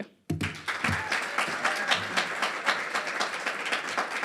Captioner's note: applause and crowd whistles